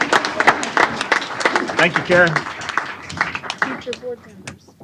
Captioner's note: applause